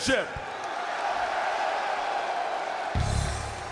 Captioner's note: spectators cheering; high-energy instrumental music